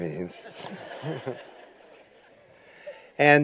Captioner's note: laughter